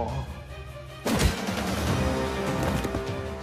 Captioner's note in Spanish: Disparo